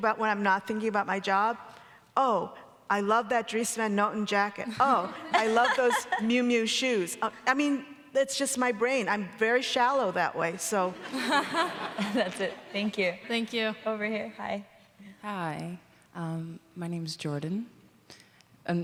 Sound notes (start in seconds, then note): 11.0 audience laughing